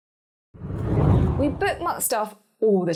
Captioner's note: air whooshing